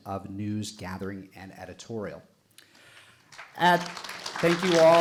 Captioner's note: audience applauding